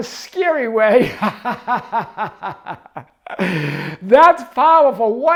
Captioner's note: laughing